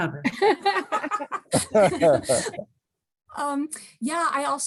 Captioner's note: group laughs